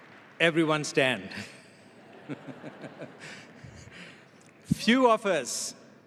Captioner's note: giggles